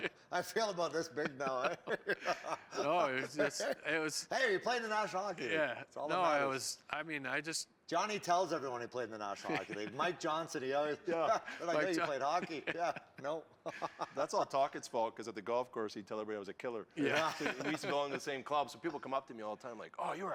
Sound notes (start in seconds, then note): 0.7 laughs